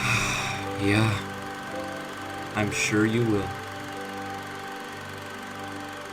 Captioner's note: Katy laughs; sigh